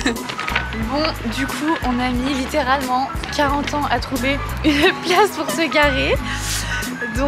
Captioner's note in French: rire